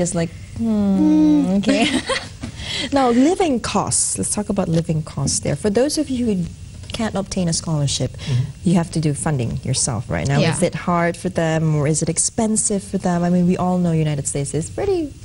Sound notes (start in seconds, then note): 1.6 laughter